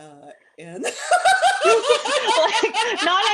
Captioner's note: laughter